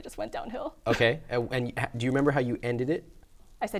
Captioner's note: voiceover